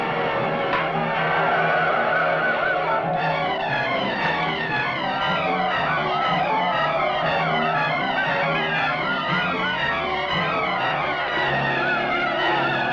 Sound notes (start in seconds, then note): 0.1 torches whooshing; 3.0 dramatic music; 6.8 men shouting